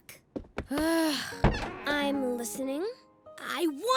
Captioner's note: groans